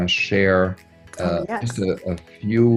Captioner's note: claps hands